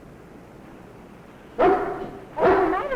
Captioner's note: dog barking